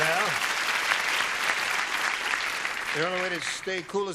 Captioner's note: applause